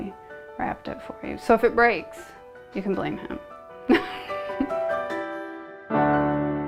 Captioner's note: chuckles